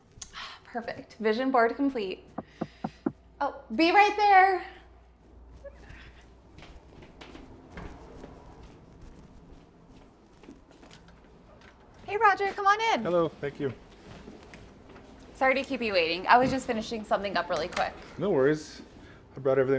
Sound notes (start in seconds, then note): 2.4 Roger knocking